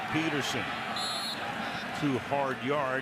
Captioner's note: whistle blows